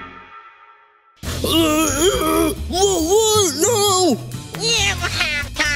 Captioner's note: struggling to speak